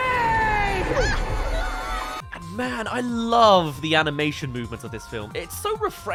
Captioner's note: screams